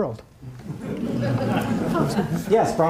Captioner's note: audience laughing